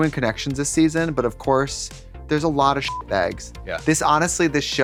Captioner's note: beep